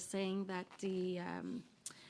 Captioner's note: speaking French